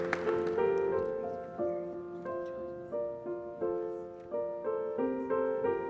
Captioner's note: applause